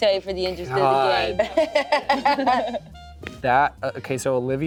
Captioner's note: laughs